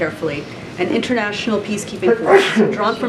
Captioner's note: A reporter sneezes